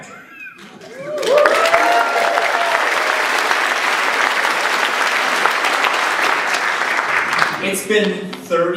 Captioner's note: applause